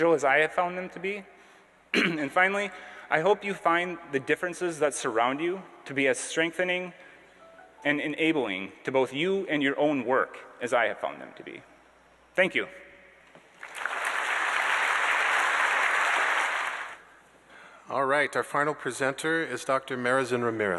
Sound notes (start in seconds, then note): 13.5 applause